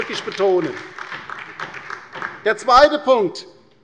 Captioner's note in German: Beifall bei der LINKEN